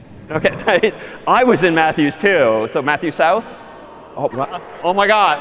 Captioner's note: خنده